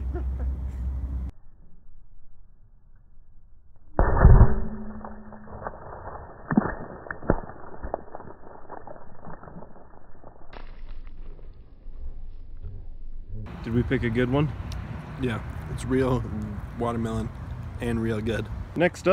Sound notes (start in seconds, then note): 0.0 muffled laugh; 4.0 anvil impacts stone